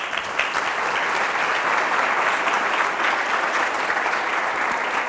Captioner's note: audience applauding